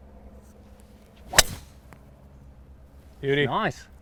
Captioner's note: golf club swinging